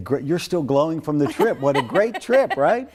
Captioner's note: laughs